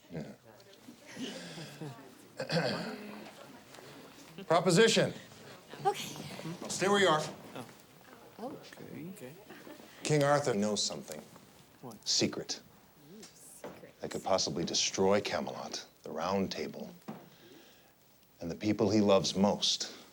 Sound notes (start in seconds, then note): 2.4 Stephen clears throat